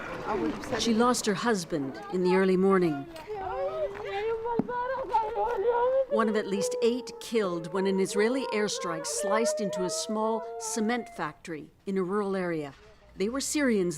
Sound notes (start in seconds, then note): 0.1 crying